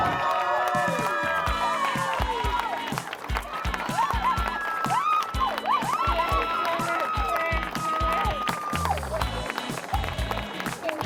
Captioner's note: crowd cheering